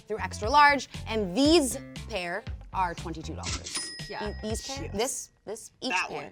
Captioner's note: cash register dings